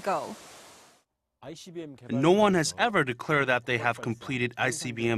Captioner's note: Korean